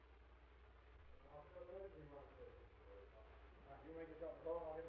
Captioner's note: faint distant chattering